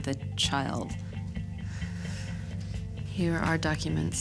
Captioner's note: sighs